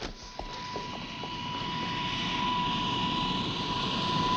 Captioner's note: plane whirring